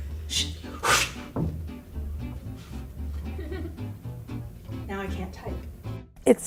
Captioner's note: whooshing noises